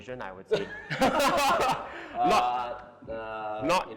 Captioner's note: both Laughing